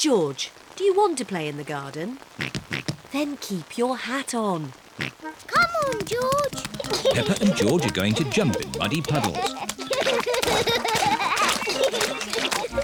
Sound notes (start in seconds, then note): 2.6 oinking; 5.3 oinks; 6.5 giggles; 10.2 both giggling